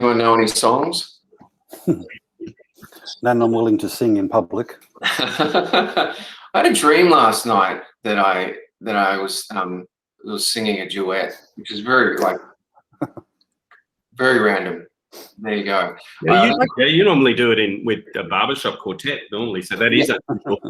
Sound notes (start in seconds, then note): 5.0 laughter